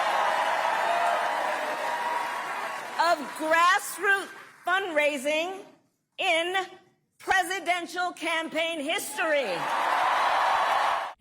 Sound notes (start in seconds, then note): 2.9 applause; 2.9 cheering